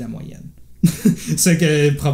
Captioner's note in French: rires